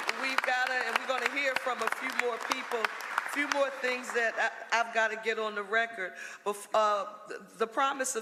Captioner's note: applause